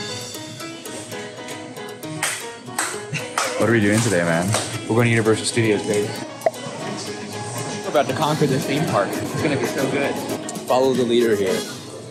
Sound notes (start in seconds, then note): 0.2 upbeat Latin music; 3.3 clapping